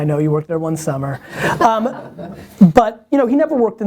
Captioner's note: people laughing